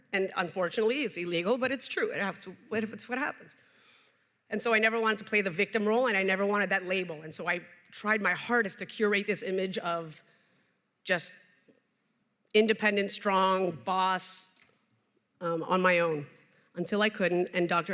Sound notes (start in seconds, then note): none